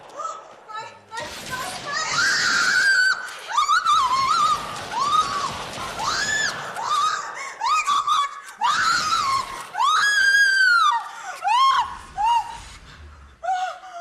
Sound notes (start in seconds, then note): 0.9 speaking Norwegian; 1.5 screams; 3.9 gunshots